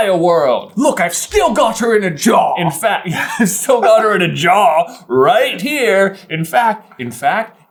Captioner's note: laughs